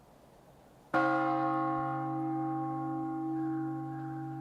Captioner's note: bell tolls